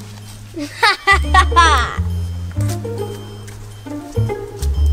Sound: Evil Assistant laughs

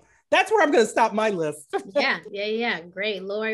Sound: laughing

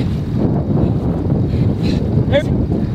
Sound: wind howling

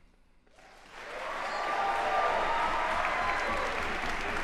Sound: applause

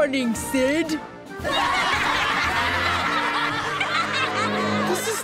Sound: laughing

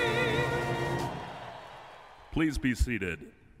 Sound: audience applauding

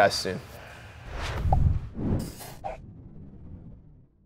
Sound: air whooshing

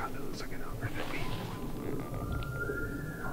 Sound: elk bugles

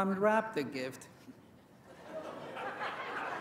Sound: laughter

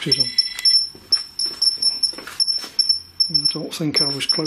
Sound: loud beeping

